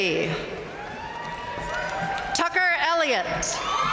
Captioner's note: audience cheering and applauding